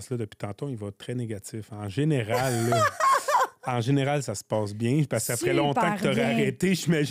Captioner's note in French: rires